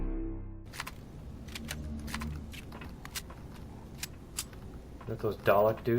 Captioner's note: weapons clicking; drones humming